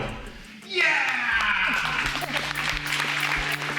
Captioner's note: all applaud